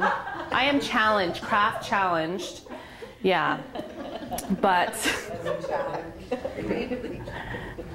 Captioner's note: laughter